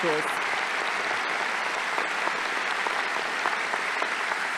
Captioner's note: audience applauding